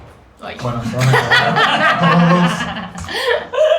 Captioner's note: laughs